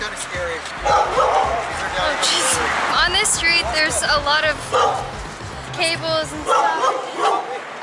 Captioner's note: dogs barking